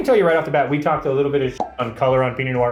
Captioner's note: pop